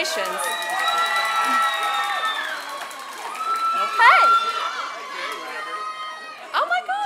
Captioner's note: applause